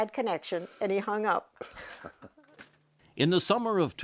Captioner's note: laughs